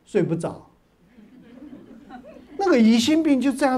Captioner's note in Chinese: 哈哈哈